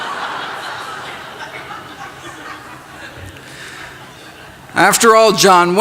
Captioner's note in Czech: Smích